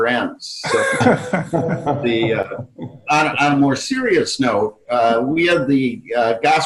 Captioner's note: all laughing